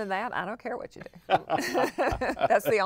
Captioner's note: laughter